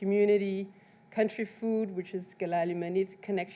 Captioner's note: speaks in foreign language